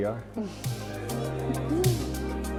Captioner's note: Eden chuckles; gentle upbeat music